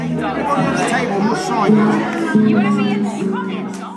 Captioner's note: room chatter